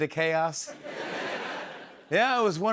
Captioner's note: laughter